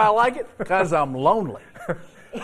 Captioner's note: laughter